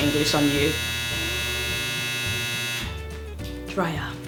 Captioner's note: annoying buzzing sound